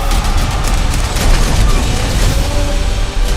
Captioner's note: gun shots